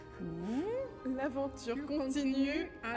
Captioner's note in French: en choeur